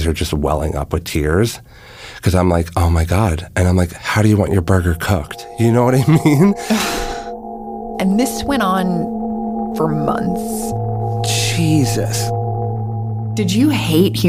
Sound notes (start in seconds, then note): 6.0 laughs